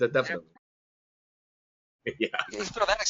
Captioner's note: audio cuts out; laughing